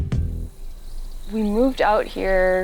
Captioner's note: insects chirping